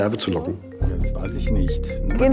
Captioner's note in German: Handyklingeln